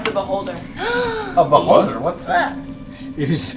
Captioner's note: gasps